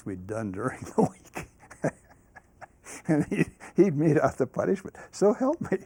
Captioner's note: laughs